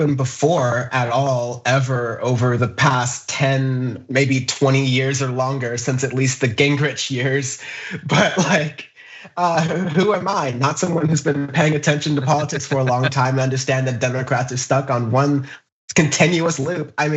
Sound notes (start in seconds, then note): 7.5 laugh